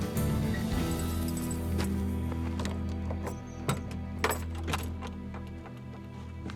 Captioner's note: keys jangling, unlocking